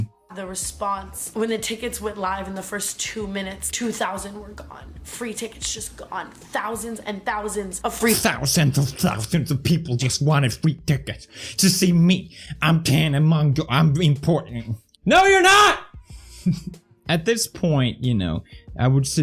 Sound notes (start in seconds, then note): 16.5 laughs